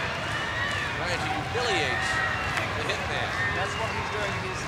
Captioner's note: crowd cheering